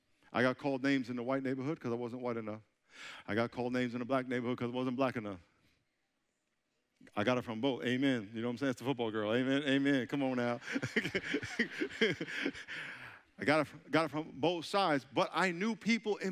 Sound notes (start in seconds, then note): 10.3 chuckling; 11.9 audience laughing